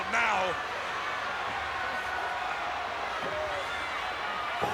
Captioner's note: crowd cheering